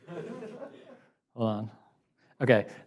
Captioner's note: audience laughs